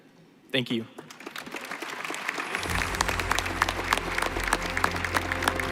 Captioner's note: applause